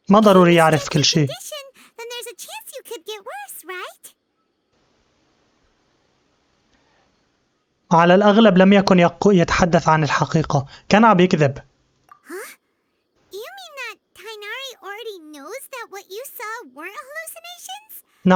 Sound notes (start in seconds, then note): 4.1 silence